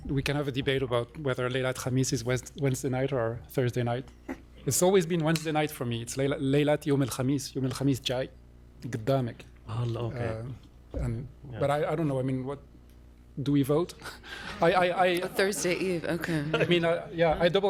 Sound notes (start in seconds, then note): 6.8 non-english